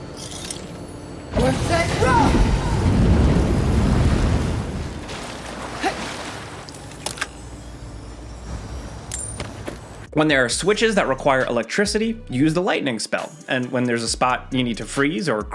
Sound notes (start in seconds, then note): 1.3 flames whooshing; 8.5 coins clinking